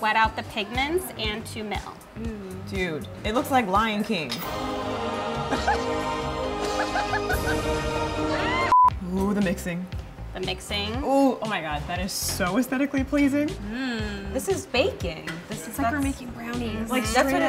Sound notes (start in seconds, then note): 6.6 laughing